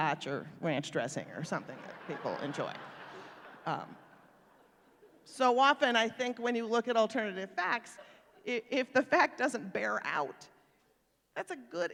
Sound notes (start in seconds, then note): 1.7 laughter